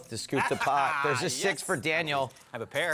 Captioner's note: laughter